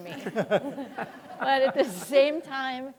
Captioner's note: audience laughing